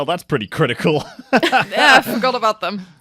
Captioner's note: laughs